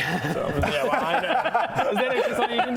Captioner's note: rebellious laughter